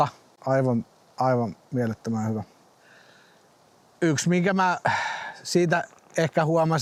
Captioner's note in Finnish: huokaus